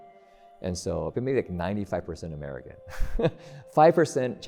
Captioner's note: laughs